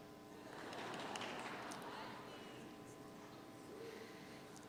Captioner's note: audience chuckles